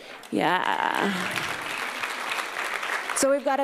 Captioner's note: applause